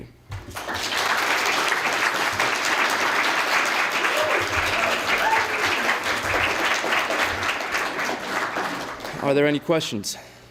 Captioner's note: applause